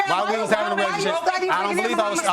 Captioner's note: women shouting over